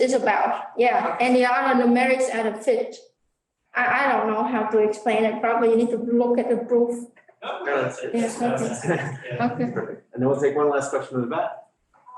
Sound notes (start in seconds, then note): 7.4 crowd chattering